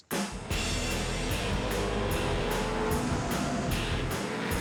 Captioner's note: truck engines revving